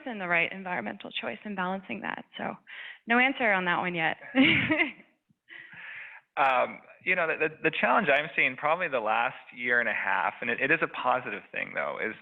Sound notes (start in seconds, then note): 4.2 laughs